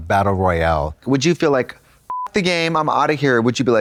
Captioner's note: beep